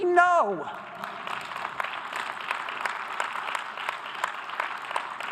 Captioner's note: audience applause